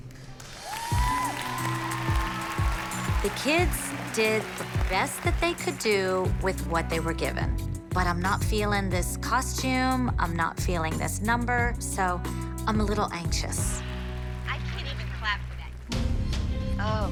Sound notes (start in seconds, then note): 2.1 cheers and applause